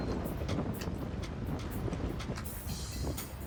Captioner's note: beach noises